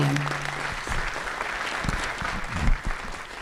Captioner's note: applause